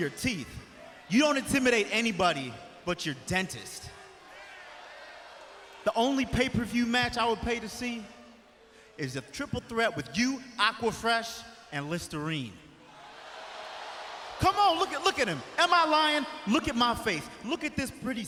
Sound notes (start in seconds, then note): 12.8 crowd cheering